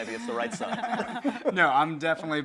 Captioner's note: group laughing